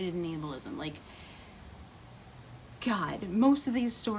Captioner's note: deep breath